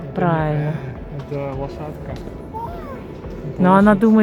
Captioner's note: grrr